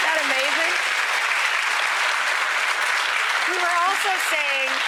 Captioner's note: audience applauds